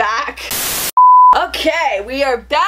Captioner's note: static; beep